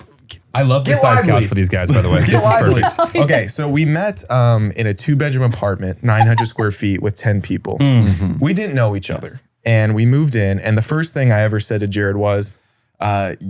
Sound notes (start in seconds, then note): 1.9 laughs